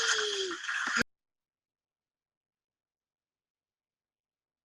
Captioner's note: audio drops out